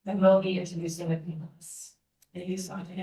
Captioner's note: speaking faintly